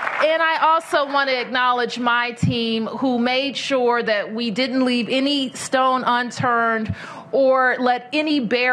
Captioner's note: applause